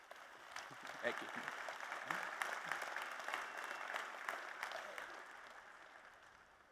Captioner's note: applause